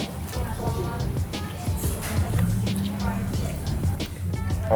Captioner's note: chewing